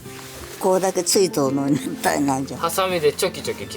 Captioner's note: laughs